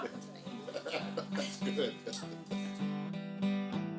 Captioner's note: laughing